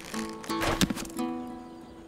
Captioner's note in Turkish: Ok fırlatma sesi